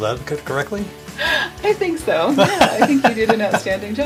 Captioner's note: laughs